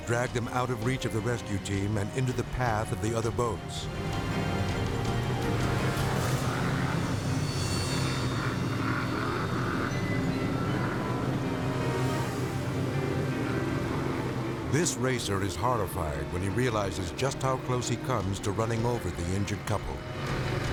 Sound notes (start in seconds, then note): 5.8 engines roar; 9.6 dramatic music